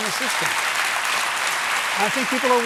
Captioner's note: applause